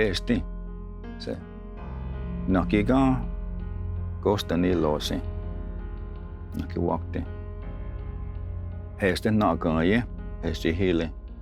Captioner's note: tells story in Cherokee language